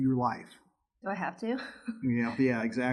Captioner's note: laughs